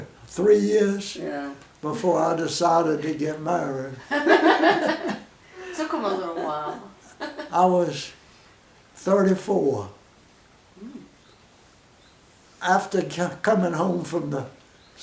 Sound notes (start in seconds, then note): 4.0 women laugh; 10.8 pause